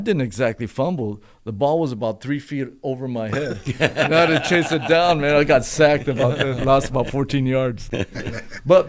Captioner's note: laughter